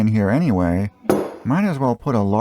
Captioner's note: thunk